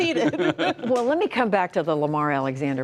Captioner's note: laughter